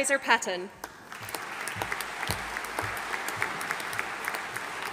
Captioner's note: audience applauding